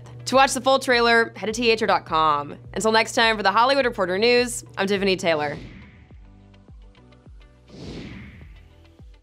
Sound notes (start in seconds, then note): 7.6 logo swooshes